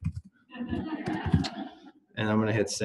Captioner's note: laughter